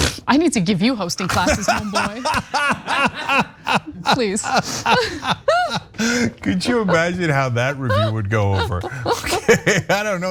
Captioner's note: laugh